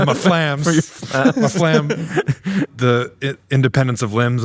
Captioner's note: everybody laughing